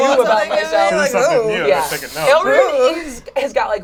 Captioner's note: overlapping chatter